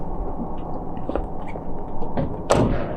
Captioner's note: van squeaks; shoes clop; door clacks